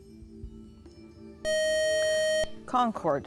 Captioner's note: buzzer